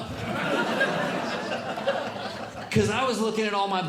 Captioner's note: audience Laughing